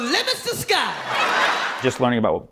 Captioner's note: laughter